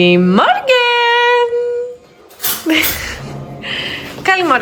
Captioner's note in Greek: γέλια